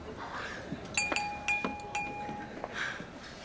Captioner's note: clink, clink, clink